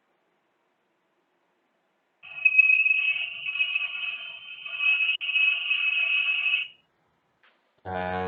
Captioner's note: sound of sonar